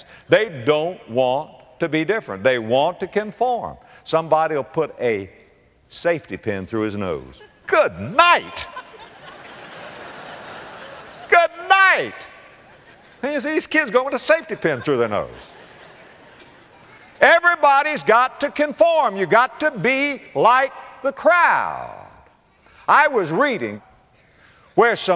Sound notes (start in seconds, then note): 14.4 audience laughter